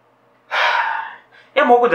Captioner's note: sigh